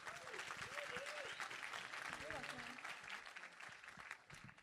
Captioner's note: applause